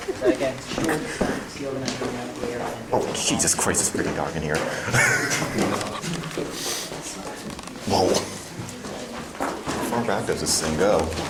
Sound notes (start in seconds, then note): 4.8 laughing